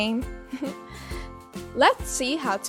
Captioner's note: chuckles